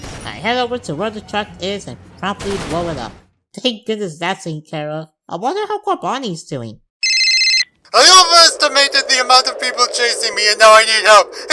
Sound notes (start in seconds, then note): 7.0 phone rings; 11.2 inhales